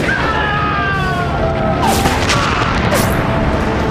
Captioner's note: screams; dramatic orchestral music; guns firing